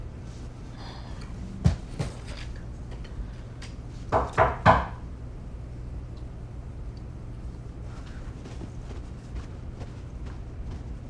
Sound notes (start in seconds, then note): 4.1 knocking